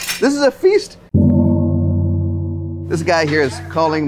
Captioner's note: gong chiming